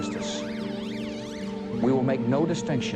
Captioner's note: police sirens wailing